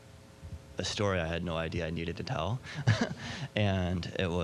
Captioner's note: laughing